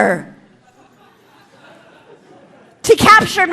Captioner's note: audience laughing